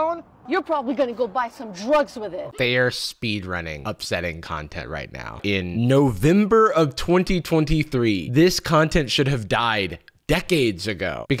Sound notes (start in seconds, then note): none